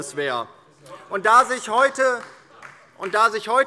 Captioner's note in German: Beifall DIE LINKE